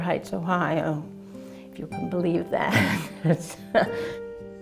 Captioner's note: chuckling; laughs